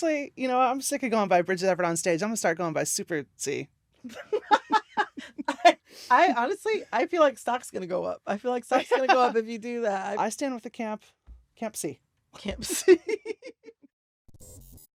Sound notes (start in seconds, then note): 4.0 laughter; 12.5 laughter